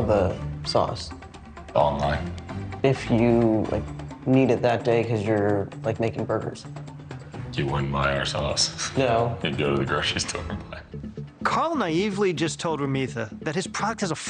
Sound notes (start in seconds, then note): 10.4 laughs